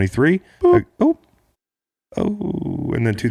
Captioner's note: beep